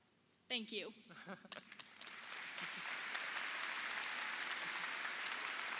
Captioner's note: audience clapping